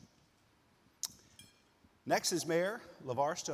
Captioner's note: utensil clinking